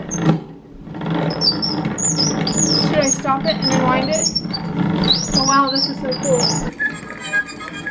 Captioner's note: squeaking sound